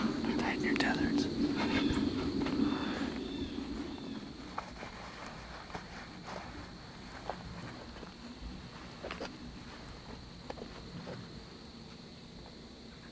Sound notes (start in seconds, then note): 2.5 birds calling; 4.5 general shuffling gear noises; 9.7 wind